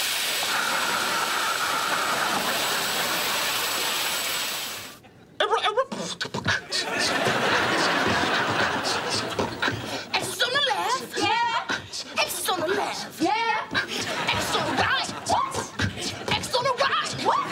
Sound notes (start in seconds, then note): 5.7 beat boxing